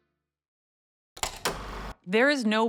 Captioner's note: film reel clicks